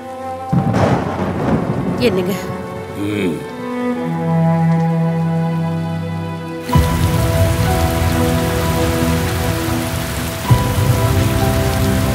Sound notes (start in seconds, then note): 7.4 rain sounds